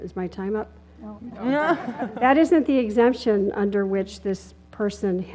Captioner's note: laugh